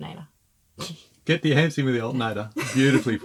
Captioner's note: laughing